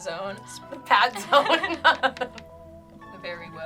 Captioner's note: laughs